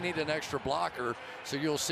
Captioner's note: cheering